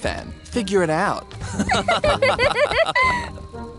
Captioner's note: both laughing